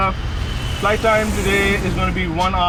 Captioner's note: airplane's engine humming